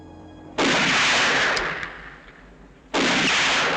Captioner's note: gun firing